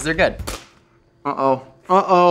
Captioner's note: bag pops